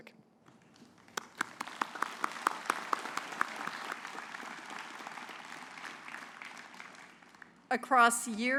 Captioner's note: applause